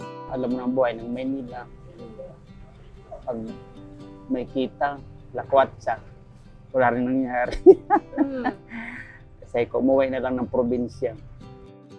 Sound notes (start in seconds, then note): 6.7 laughs